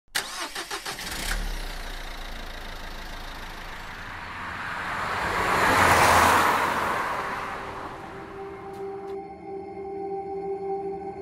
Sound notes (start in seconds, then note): 0.0 car engine; 2.8 vehicle passing